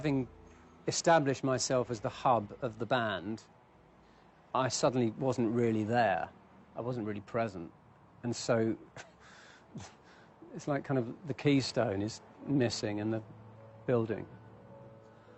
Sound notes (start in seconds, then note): none